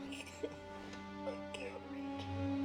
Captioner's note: crying